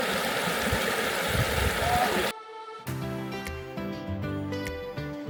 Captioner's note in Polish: Aplauz